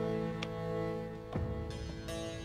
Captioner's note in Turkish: El vurma sesi